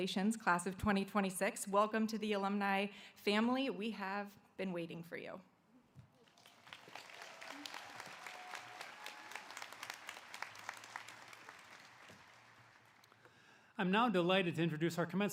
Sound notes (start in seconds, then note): 2.9 applause